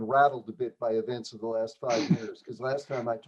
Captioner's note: laughter